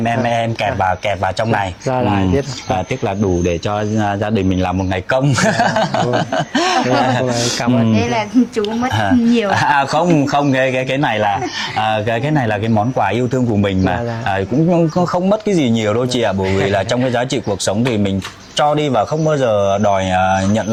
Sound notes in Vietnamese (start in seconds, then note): 5.3 tiếng cười